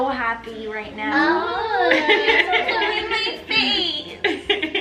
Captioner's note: everyone laughs